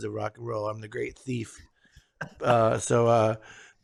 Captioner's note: laughs